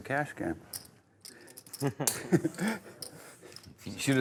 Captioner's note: players laughing